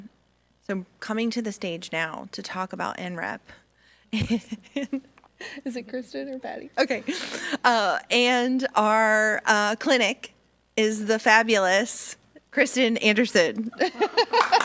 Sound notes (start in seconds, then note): 4.6 laughs; 13.7 laughs; 14.3 audience applauding